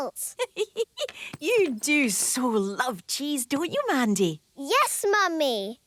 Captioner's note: giggling